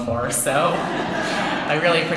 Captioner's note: laughter